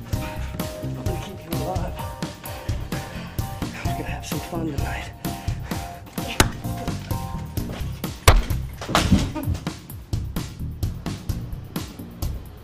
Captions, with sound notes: - I'm gonna keep you alive. I was gonna have some fun tonight. (blows thudding) (man groans)